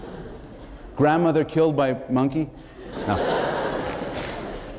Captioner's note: laughter